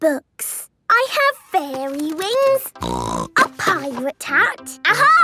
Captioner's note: snorting